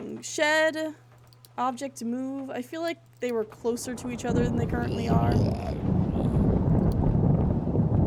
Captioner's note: thunder, Menacing Groaning; thunder Continues to Rumble